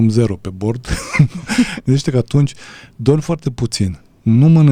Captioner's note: laughter